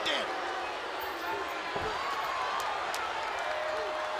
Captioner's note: audience booing